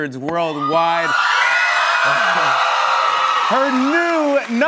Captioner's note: cheers and applause